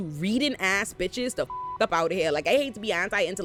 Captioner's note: beep